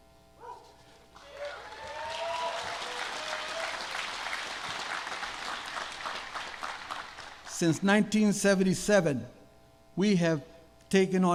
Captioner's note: applause